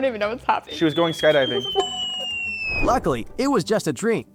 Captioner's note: laughing